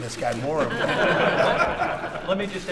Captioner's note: laughter